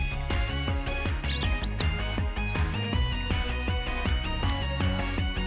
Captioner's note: squeaks